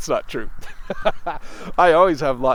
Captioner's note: laughs